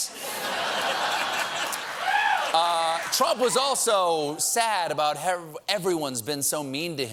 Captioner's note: laughter